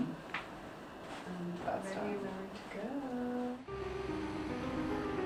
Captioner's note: sing-song; classical piano music